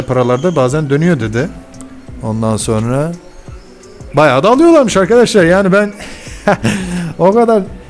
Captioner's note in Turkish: kahkaha